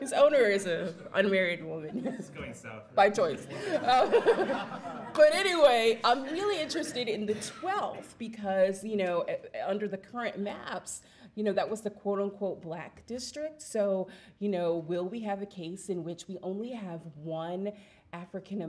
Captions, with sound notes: his owner is a unmarried woman. - [Voiceover] That's doing something - By choice. (audience laughs) Anyway, I'm really interested in the 12th because under the current maps that was the quote-on-quote black district. Will we have a case in which we only have one